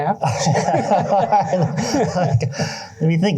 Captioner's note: laughter